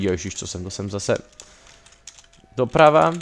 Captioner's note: breaths in